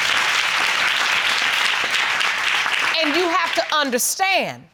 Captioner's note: audience applauding